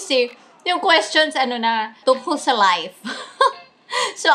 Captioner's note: laugh